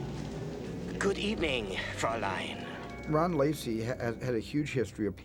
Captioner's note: German accent